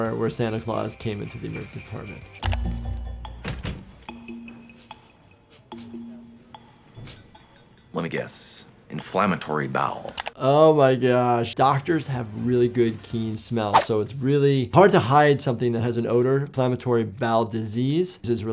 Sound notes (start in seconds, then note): 5.4 sniffing